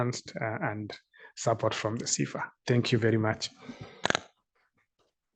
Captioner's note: applause